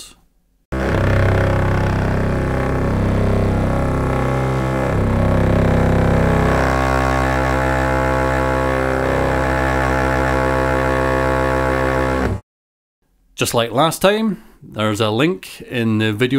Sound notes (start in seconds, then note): 0.8 sample of hair clippers on wood plays